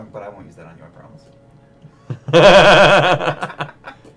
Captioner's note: laughter